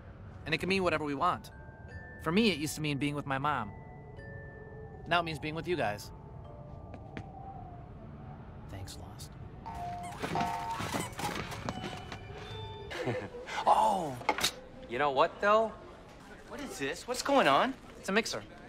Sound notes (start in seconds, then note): 8.4 whispered; 12.9 JEFF laughs